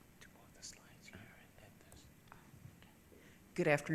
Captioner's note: faintly speaking